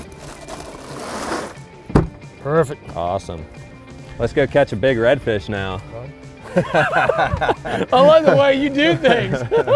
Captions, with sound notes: - Perfect. - Awesome. - Let's go catch a big redfish now. (both laughing) - I love the way you do things.